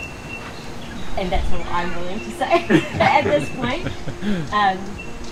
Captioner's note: laughs